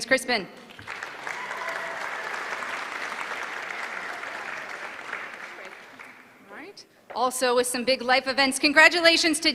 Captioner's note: applause